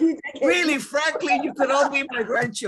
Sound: laughs

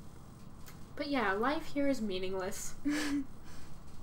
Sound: Blueheart laughs

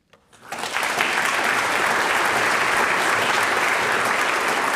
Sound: audience applauds

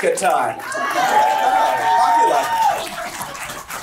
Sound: crowd cheering

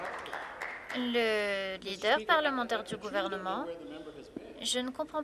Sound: applause

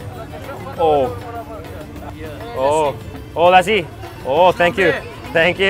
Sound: speaking in foreign language

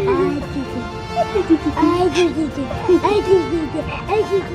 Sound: laughing; playful babbling

